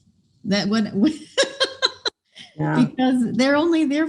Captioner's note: laughs